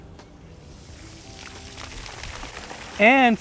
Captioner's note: water splashing